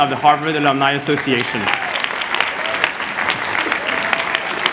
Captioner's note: applause